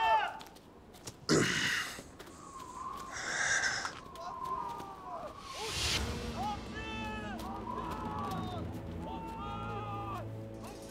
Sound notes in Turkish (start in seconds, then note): 1.2 İnleme sesi; 3.2 Rüzgâr sesi; 6.0 Bağırma sesleri